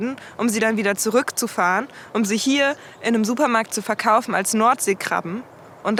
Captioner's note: in German